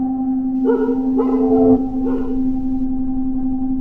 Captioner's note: dog barking outside